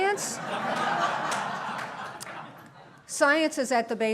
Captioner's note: laughter